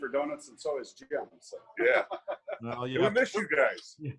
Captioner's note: laughs